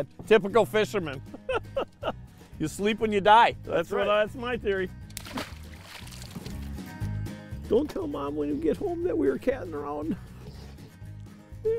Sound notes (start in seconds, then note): 1.3 laughing